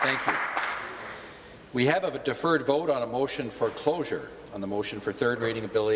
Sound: applause

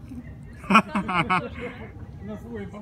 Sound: laugh track

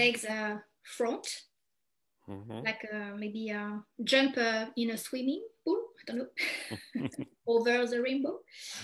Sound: chuckles

